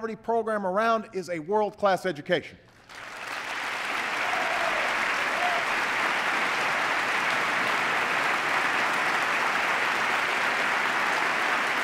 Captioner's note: applause